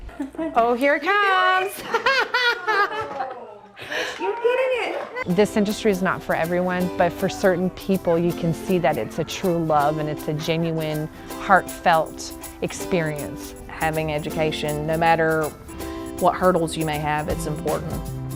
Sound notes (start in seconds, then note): 1.7 laughs; 3.3 upbeat music